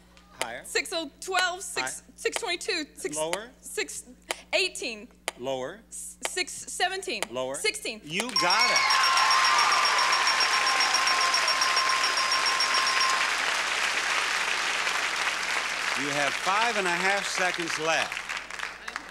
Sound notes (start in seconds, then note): 8.3 audience cheers; 8.3 bell chimes